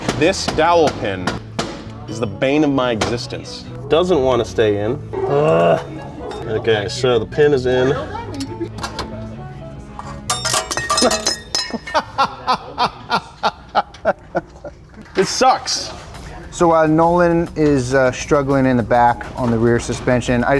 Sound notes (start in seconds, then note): 10.4 metal clicking; 11.7 laughs